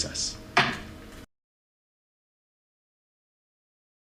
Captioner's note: bang of gavel